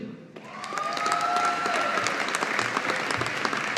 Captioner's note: audience applauding